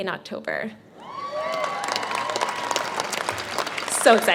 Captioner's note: clapping